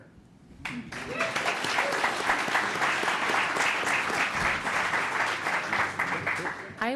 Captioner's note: applause